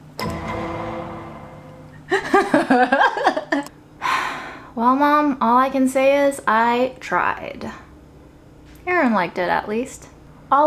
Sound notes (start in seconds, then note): 0.0 dramatic music; 2.1 laughs; 4.0 sighs